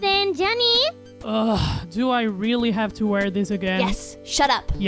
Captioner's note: groans